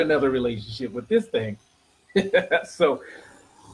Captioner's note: laughing